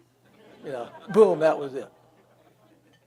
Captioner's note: audience laughs